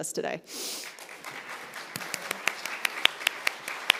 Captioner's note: group clapping